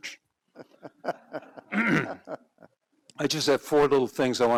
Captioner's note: all laugh; clears throat